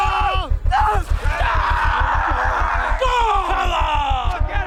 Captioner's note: Bodil shouting